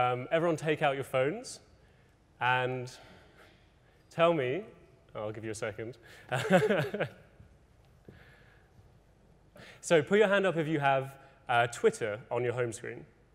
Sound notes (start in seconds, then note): 6.3 laughs